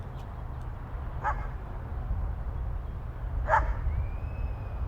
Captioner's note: dog barking continues